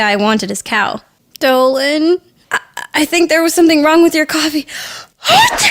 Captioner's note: achoo!